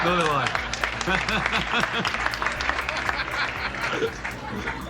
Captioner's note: audience laughs